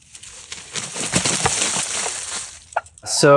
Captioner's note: feathers rustling